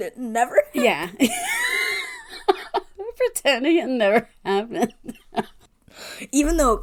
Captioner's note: laughs